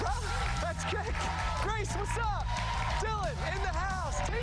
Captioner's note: cheers and applause